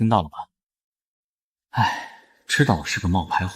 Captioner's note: sigh